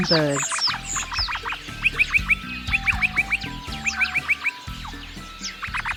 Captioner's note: birds chirping